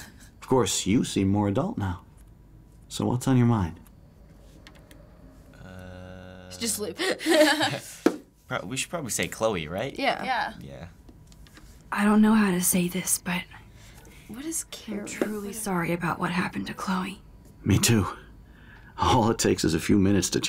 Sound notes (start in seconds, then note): 6.8 laughs